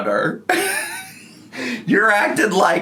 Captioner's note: wheezing